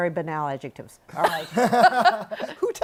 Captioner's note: laughter